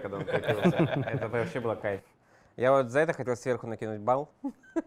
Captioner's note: laugh